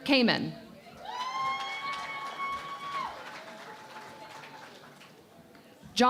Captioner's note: cheering and Applause